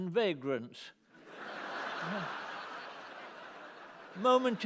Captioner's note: laughter